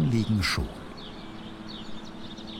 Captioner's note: birds chirping